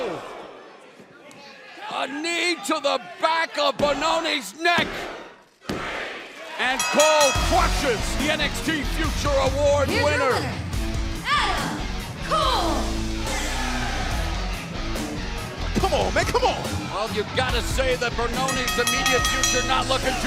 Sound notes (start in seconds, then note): 6.7 bell ringing